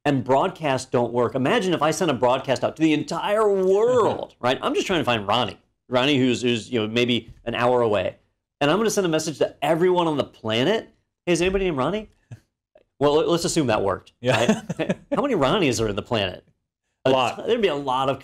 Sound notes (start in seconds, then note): 14.3 laugh